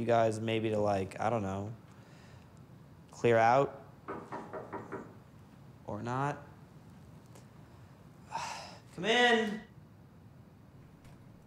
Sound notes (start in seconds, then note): 4.0 knocking; 8.2 sighs